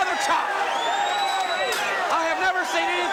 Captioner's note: crowd cheering